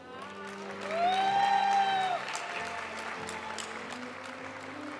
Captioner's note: audience cheering and applauding; graduation music